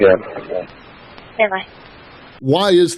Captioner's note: radio traffic